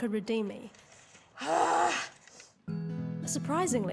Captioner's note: sighs